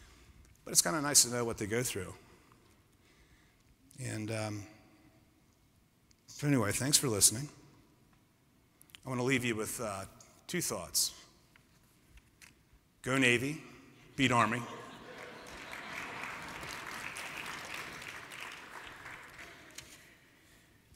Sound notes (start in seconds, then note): 14.6 laughter; 14.9 applause